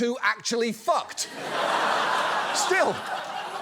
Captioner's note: audience laughs